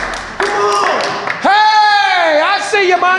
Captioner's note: all applauding